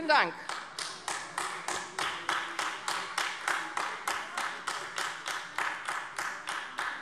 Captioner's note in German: Beifall AfD